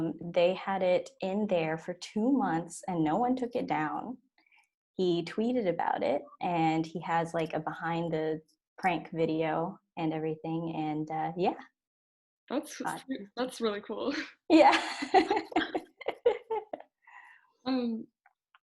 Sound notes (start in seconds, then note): 14.7 laughs